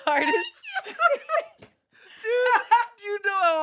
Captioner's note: everyone laughs